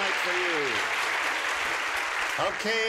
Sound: applause

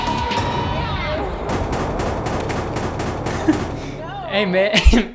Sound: banging sound

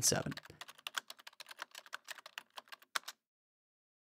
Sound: frantic typing noises

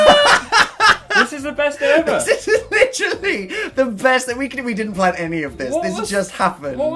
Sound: laughs; laughing

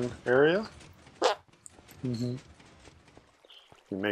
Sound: squeak

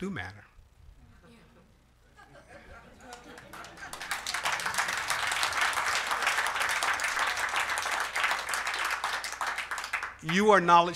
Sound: applause

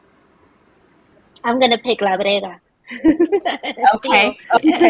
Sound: laughs

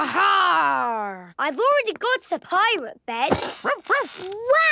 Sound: barking

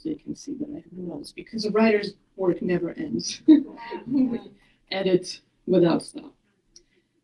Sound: laughter 58.13

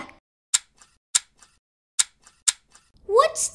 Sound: snip, snip, snip, snip

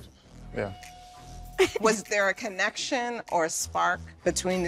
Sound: chuckling

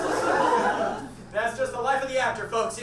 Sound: audience laughs

